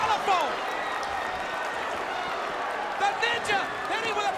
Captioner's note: crowd cheering